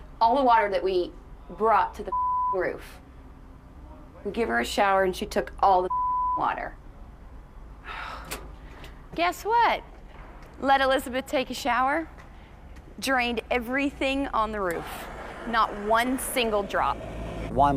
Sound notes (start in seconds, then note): 7.8 sighs